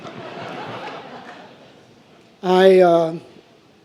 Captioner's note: laughing